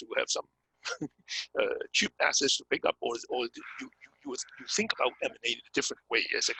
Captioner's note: laugh